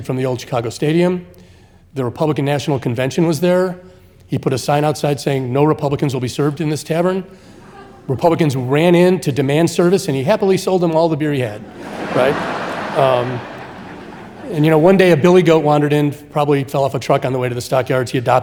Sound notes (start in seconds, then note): 11.5 audience laughing